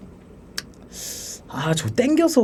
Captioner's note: inhaling